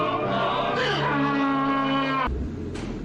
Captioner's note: donkey braying